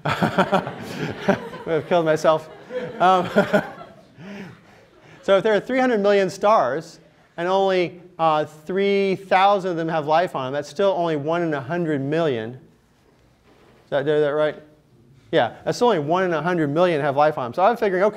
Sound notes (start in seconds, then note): 3.5 laughter